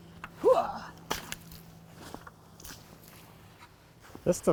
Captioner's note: splashing